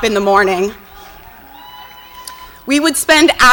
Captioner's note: audience cheers and applauds